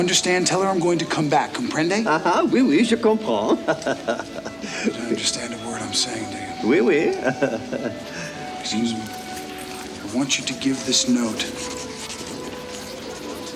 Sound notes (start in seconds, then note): 2.9 John speaks French; 6.1 chuckles